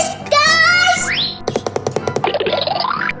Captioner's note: quick tapping; cartoony blooping